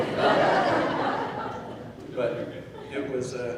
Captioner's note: laughing